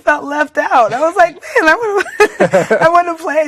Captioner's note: both laughing